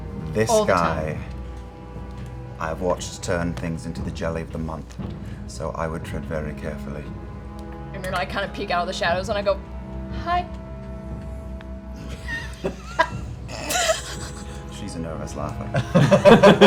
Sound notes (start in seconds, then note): 13.4 giggles